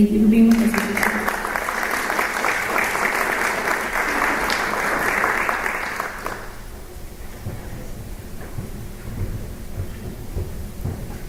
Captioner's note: applause